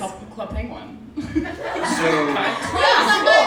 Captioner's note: laughing